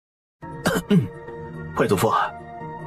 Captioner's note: cough